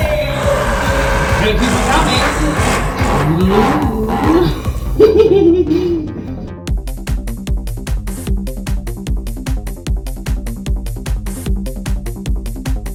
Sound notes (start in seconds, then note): 7.4 giggles; 9.3 upbeat music plays